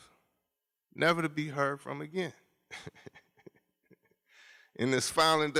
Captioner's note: laughs